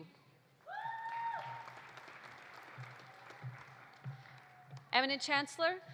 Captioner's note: audience cheering; audience applauding